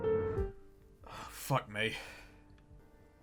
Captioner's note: sigh